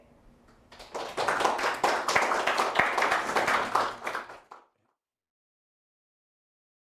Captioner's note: applause